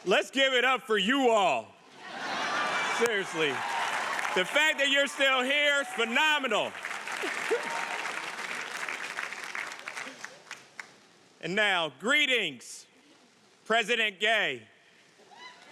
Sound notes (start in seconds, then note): 2.0 audience laughing; 7.1 audience applauding